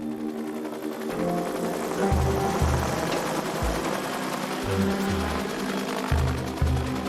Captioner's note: dark music; helicopter blades whirring